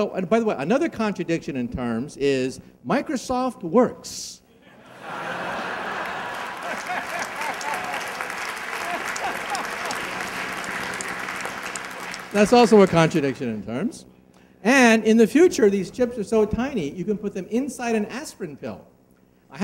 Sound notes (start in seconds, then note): 4.7 laughing and applause